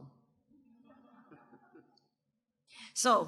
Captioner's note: audience members laugh